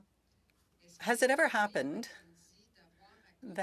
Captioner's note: speaking french